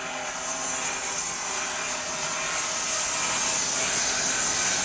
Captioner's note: saw whirs